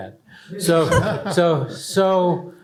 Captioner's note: laughter